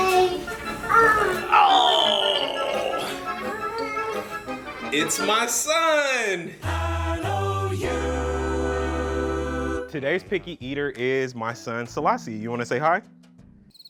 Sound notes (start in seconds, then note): 1.4 groans